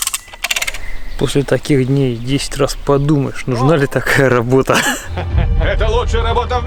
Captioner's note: laughs